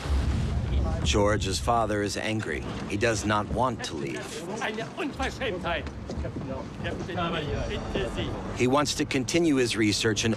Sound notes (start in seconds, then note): 4.6 in German